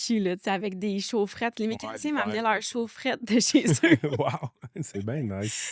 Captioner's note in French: rires